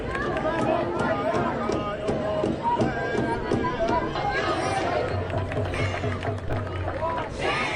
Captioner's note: protest chanting